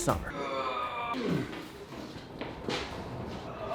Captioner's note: grunting